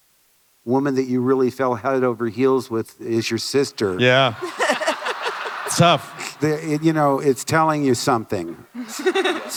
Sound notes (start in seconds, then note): 4.3 laughter